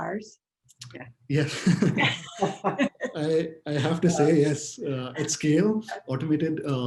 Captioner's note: laughing